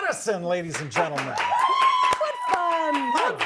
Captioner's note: crowd clapping and cheering